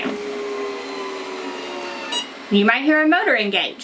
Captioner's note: autopress whirs